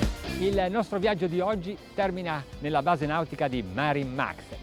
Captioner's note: speaks in foreign language